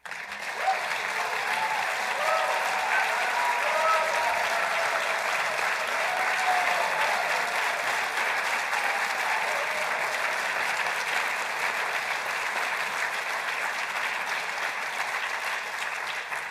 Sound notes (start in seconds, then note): 4.4 applause